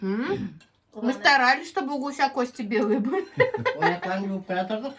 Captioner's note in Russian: смех